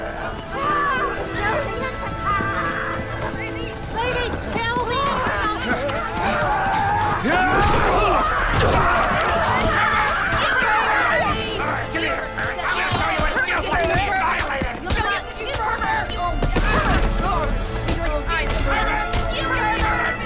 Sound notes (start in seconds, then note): 8.1 ladies Yelling